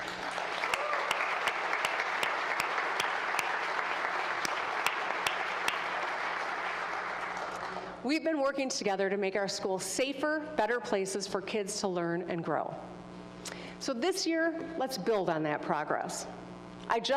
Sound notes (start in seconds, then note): 4.5 applause